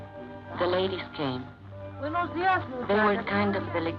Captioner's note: woman speaks Spanish